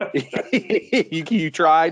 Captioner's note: laughs